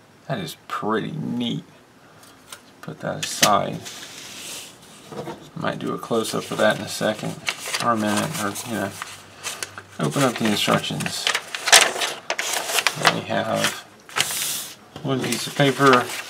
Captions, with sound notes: That is pretty neat. Put that aside. Might do a close up of that in a second. or a minute or you know. Open up the instructions. [paper crinkling] We have.. one piece of paper